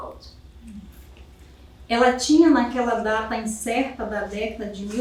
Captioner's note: speaking portuguese